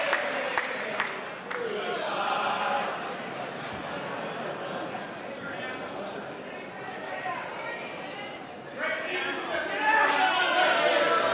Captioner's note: applause